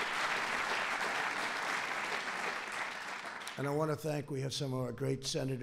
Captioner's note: applause